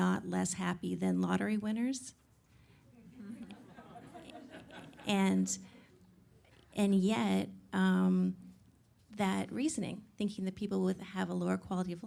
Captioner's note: audience Laughing